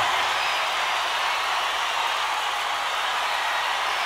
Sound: crowd cheering

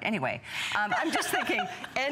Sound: laughter

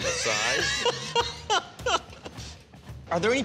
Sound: laughs

